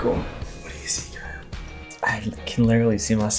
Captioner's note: whisper